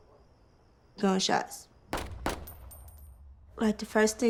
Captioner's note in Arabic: إطلاق نار